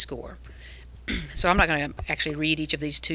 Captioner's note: clears throat